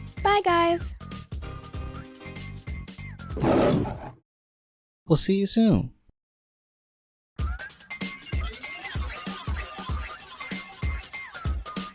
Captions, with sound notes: Bye guys! *ROARS* We'll see you soon!